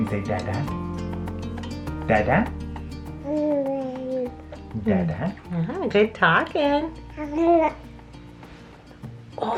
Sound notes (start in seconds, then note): 3.2 babbles; 7.1 babbles